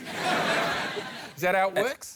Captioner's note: laughter